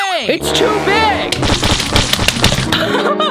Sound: mold jiggling; laughing

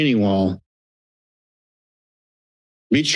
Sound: silence

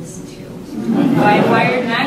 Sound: laughter

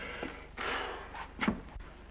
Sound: forcibly exhales

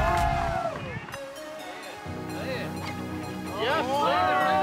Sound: cheers and applause

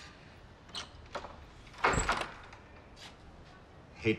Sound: door opens

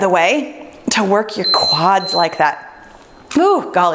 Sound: timer beeps

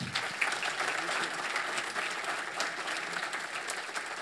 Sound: audience applauds

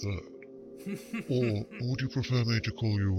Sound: sniggers in the background

